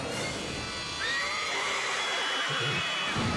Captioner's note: horse squeals; crowd shouts